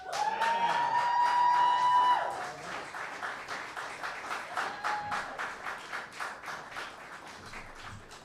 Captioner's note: cheers and applause